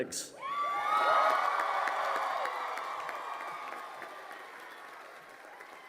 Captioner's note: crowd cheering and applauding